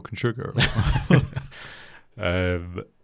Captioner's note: both laugh